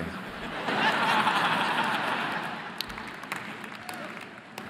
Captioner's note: audience laughing